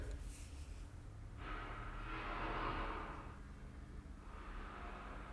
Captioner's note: clattering